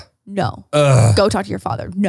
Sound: groans

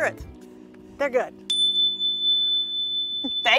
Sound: chime dings

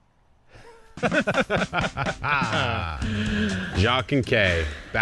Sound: both laughing loudly

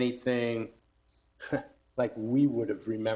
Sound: chuckles

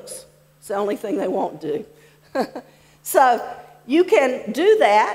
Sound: laughs

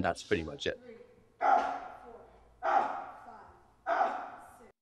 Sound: grunting

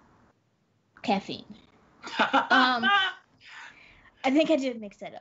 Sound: Brennan laughs

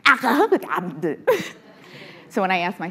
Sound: chuckles

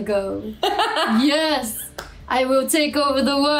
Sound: laughs

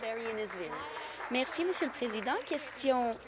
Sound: applause

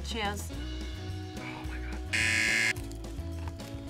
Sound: whispers; buzzer rings

